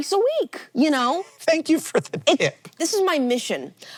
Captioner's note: laughing